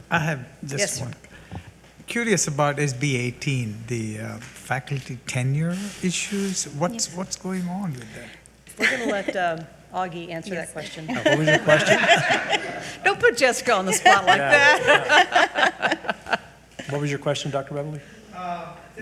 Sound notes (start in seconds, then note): 11.1 all giggling